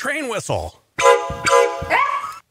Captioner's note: toot toot!; scream!